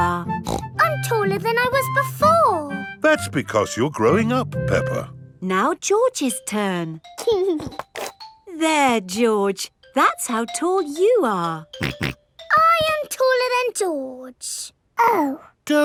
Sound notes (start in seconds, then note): 0.4 snorts; 7.2 giggling; 11.8 snorts